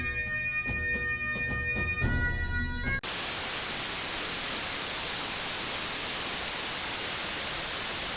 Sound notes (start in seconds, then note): 3.0 static